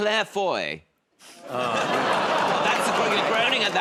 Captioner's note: audience groans